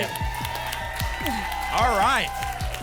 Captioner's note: applause and cheering